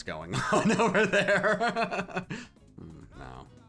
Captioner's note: laughing